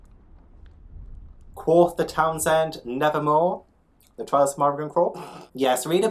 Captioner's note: laughs